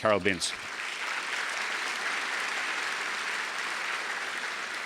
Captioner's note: audience applause